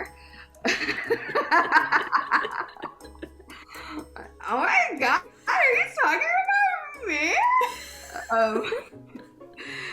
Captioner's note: laughs